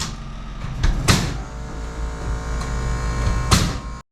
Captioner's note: motor whirring